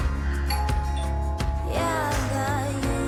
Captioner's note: doorbell ringing